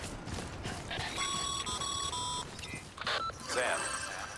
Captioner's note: radio call